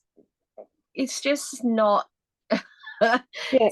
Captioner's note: laughs